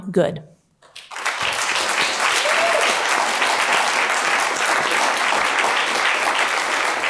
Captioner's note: applause